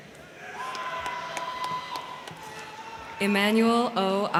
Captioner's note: crowd cheering; crowd clapping